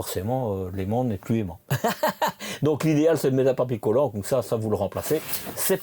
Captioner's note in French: rires